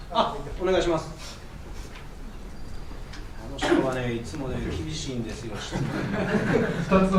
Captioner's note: laugh